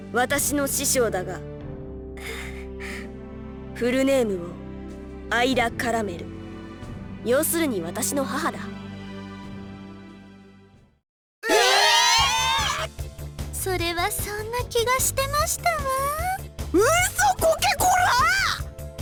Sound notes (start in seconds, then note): 2.2 nervous breath; 10.2 silence